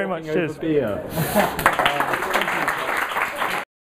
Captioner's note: applause